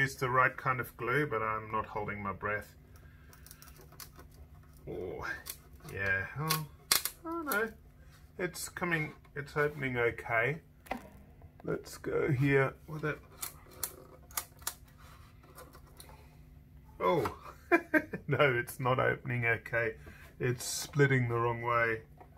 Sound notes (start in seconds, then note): 17.0 he laughs